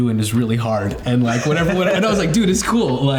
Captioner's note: all chuckling